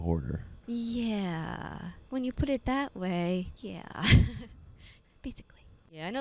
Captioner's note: laughing